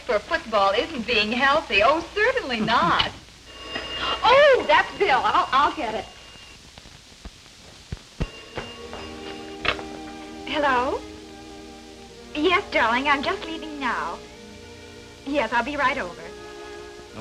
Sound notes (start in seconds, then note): 3.4 phone ringing